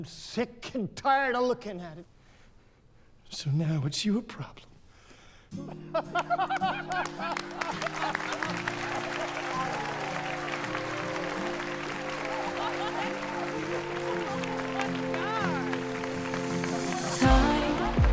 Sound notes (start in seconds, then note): 6.4 all laughing and applauding